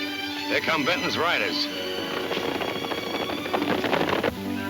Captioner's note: hooves thundering